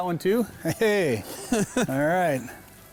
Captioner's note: chuckles